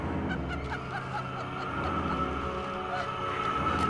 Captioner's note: laughing